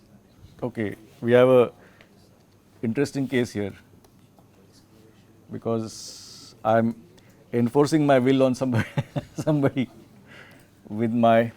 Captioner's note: laughs